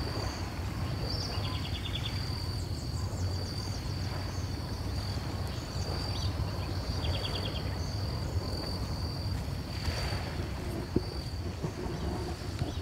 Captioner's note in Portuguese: barulho do mar; chilrear de pássaros